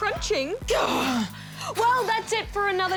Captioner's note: both sigh